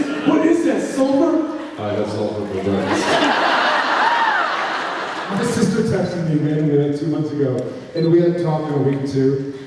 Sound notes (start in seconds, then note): 2.8 laughs